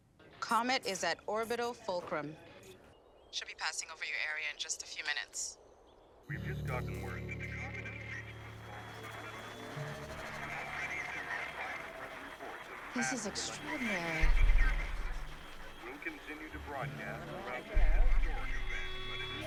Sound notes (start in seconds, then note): 8.1 crowd; 11.5 applause